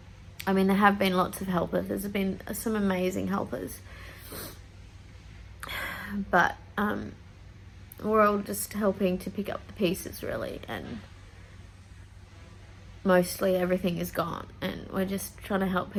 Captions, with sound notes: I mean, there have been lots of helpers. There's been some amazing helpers. [sniffs] [sighs] But, um, we're all just helping to pick up the pieces really, and mostly everything is gone and we're just trying to help